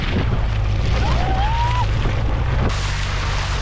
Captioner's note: screeching